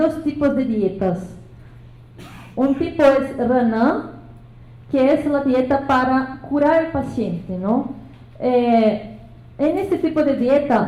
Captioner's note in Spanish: habla en lengua indígena